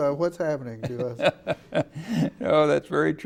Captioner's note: laughing